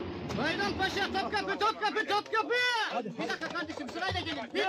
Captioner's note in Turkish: bağirarak